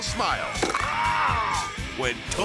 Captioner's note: gator jaw crunches